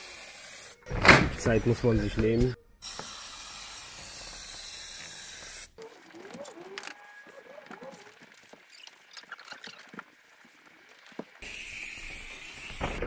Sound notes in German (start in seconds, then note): 0.0 zischen; 2.9 rauschen; 5.9 klappern; 11.4 zischen